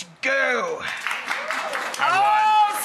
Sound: clapping

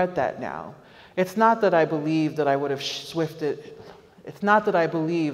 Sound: stammers

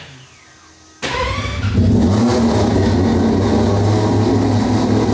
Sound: car engine starting

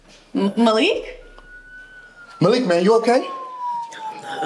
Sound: siren wailing

